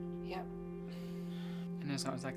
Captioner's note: Alice and Frank sigh